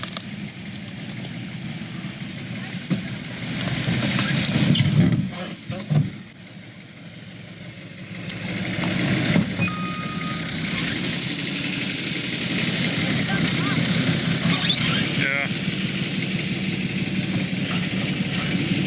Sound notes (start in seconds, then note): 9.6 bell dings; 12.6 engine noise